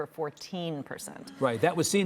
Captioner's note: audience gasping